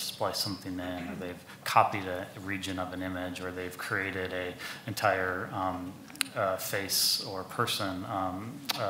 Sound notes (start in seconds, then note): 1.0 people chuckle